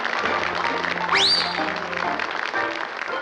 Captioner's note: whistles